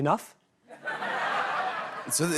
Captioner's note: laughter